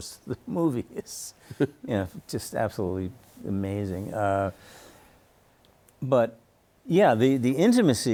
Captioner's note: chuckles